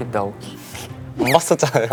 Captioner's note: haha